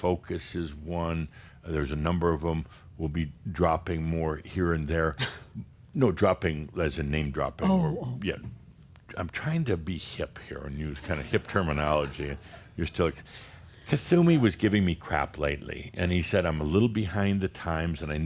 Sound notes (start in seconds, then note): 5.2 chuckles; 11.0 some chuckles